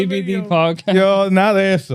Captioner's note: speaking Spanish